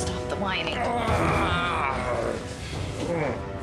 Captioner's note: groaning